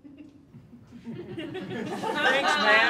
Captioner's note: all laughing